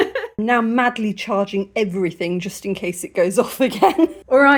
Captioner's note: laughing; laughing